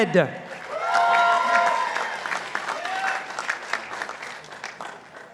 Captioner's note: participants applauding